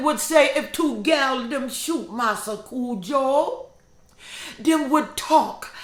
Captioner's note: speaking in foreign language